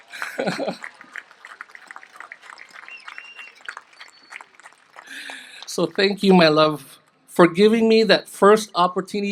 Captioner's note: applause